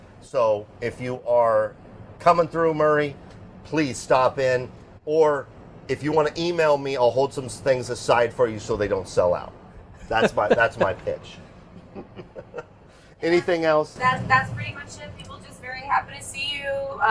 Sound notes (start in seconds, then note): 11.7 laughing